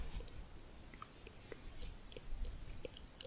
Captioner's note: stroking bristles, tongue clicking